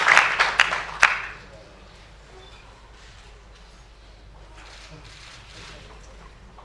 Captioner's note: applause